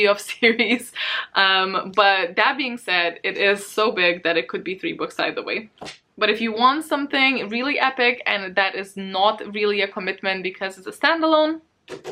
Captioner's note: tap tap